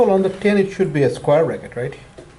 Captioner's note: voiceover